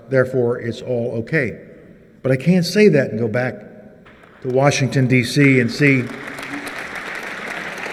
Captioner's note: applause